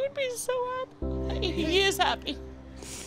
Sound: voice cracking

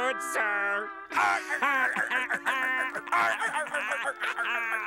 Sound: laughing

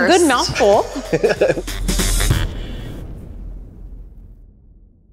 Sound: laughs

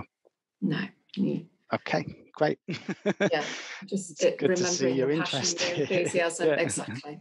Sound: laughs

